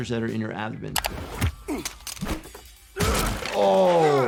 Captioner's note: characters grunting